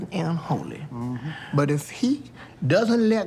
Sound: Peele mmhmms

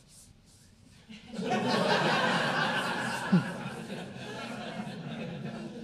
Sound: audience laughing

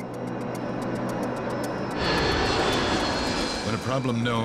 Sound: plane engine roars

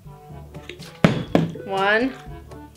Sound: bottle landing

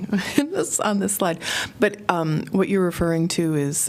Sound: laughter

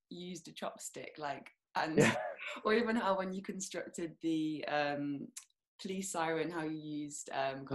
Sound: laughs

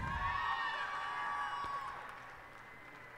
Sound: cheers and applause

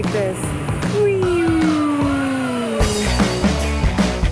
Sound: weeeooooooooo

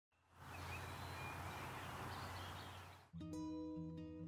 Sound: birds chirping happily; peaceful music

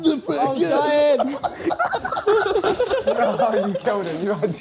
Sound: laughing

